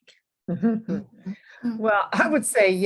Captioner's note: chuckling